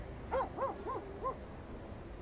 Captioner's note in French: aboiements